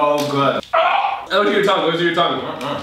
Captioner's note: Whimpering